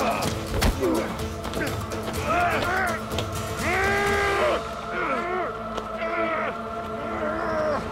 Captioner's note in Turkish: Ok saplanma sesi; Dövüş sesleri